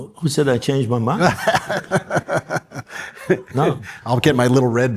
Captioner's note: laughs